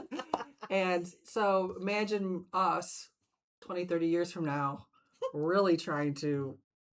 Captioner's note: both laughing